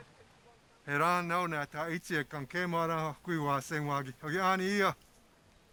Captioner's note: speaking Tewa